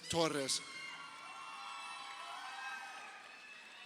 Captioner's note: crowd cheering